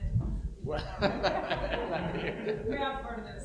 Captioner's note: laughing